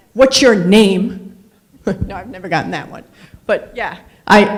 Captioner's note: laughs